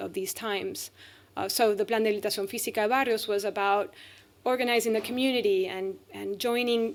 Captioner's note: speaking spanish